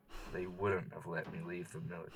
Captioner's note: exhale